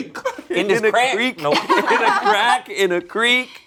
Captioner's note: group laughs